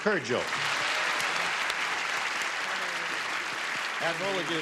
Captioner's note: clapping